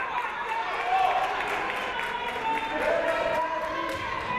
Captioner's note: crowd clapping